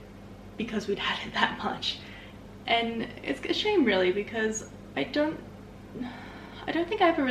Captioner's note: thinking sigh